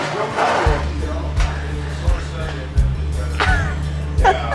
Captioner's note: chair scrapes; guffaws